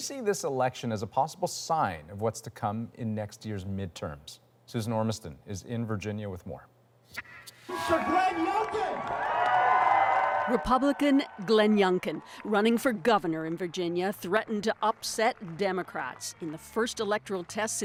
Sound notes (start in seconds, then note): 9.8 cheers and Applause